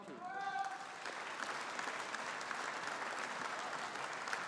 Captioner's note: audience applauding